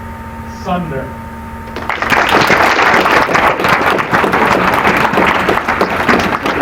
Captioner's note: applause